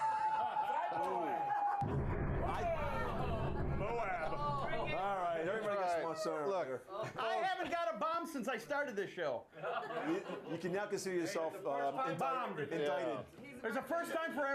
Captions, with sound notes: [BELL RINGS] [SOUND OF BOMB FALLING] - ALL RIGHT, EVERYBODY GETS ONE SOONER OR LATER. - I HAVEN'T GOT A BOMB SINCE I STARTED THIS SHOW. - YOU CAN NOW CONSIDER YOURSELF INDICTED.